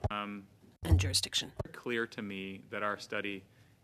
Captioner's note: speaking french